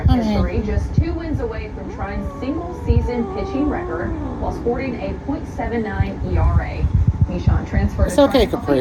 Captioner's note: continues growling